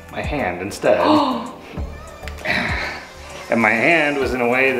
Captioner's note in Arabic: شهقات